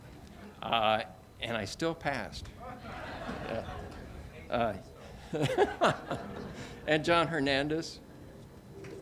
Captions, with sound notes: and I still passed. (audiences laughs) And John Hernandez.